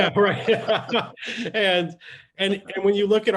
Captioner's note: laughing